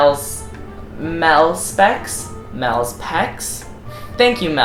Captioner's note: pecks